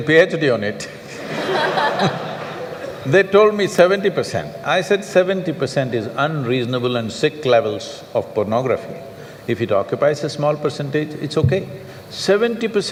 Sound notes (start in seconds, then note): 0.0 laughter/Applause; 1.0 laughter